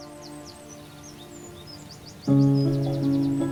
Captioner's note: birds whistling; emotional piano music